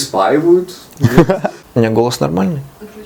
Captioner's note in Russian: смеётся